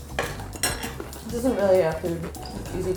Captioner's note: utensils clinking